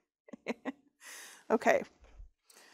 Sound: chuckles

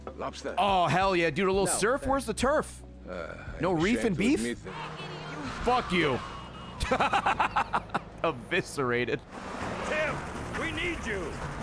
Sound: laughs

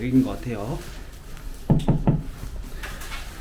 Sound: knock knock knock

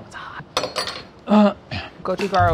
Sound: clinging

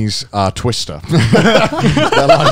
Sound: laughing

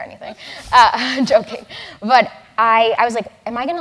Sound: laugh

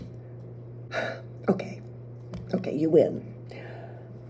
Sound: sigh

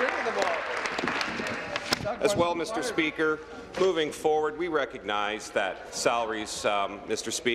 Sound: applause

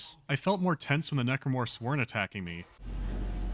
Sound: none

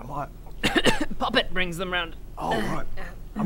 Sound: cough cough

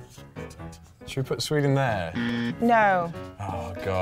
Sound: alarm

